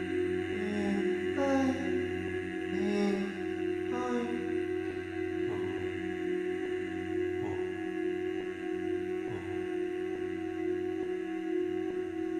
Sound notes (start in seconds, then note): 2.7 short bursts of humming